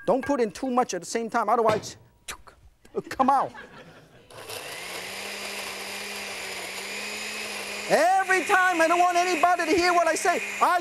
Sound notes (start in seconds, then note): 3.4 laughing; 4.2 blender whirring